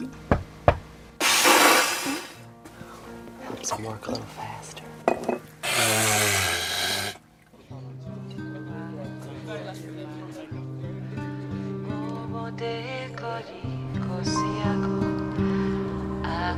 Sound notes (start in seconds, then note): 9.3 whispering